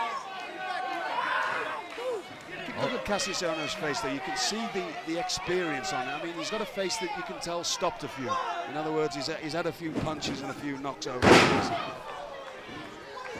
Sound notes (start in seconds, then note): 8.3 crowd chatter